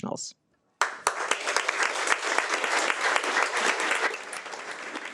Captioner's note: audience applauding